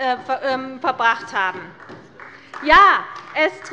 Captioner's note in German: Beifall bei der CDU